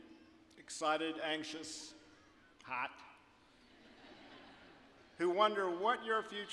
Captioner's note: audience laughing